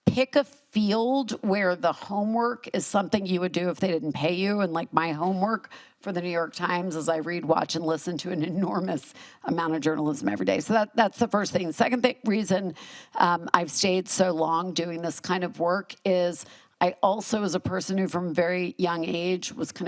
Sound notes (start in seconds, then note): none